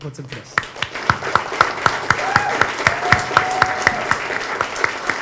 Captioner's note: audience applause